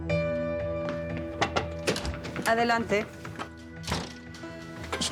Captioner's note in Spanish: toques en la puerta